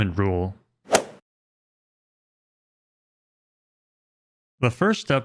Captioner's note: golf swing sound effect